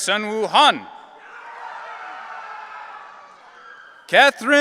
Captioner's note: audience cheering